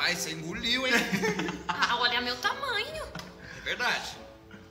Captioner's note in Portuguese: risos